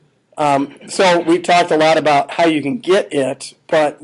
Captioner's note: laughing